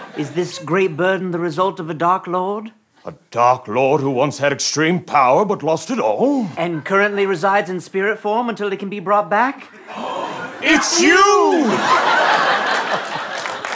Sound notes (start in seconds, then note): 10.0 gasps